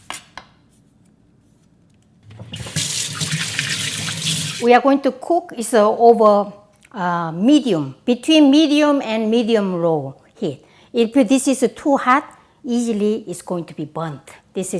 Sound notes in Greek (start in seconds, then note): 2.3 τρέχει το νερό